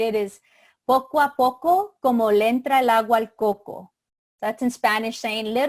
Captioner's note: speaking in foreign language